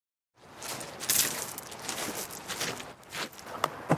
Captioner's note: footsteps on rocks